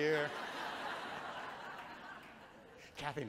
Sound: audience chuckles

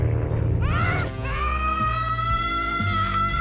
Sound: continues yelling

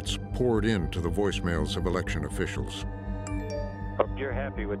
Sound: chime

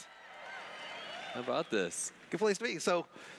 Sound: cheers

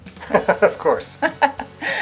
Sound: laughing; laughs

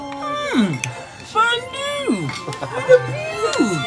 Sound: man laughs

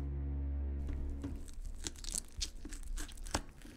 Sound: sounds of flesh scraping and cutting

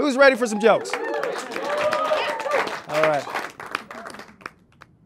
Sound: audience cheers

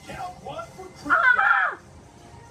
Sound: game voice

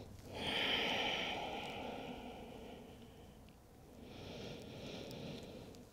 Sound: heavy breathing

